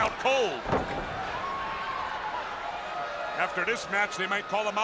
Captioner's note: body thudding